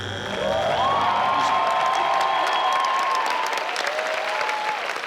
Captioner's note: audience applauding